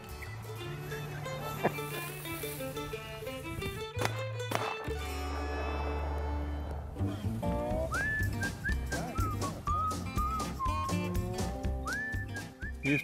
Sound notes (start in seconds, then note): 0.1 upbeat country music; 4.5 shots go off; 9.3 upbeat country music